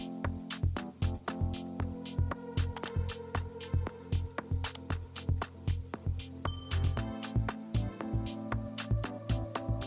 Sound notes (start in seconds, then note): 2.6 mouse clicking; 6.4 bell dinging